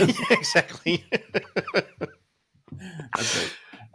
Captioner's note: laughter